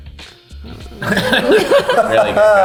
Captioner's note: all laughing